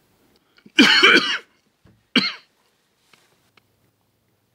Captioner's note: coughing